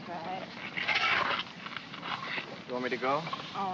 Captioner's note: shovel scrapes